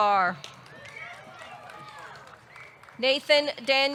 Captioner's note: audience clapping; audience cheering